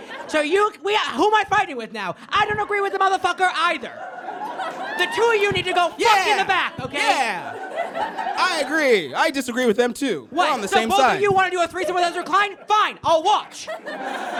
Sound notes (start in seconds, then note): 3.7 audience guffaws; 13.4 audience laughs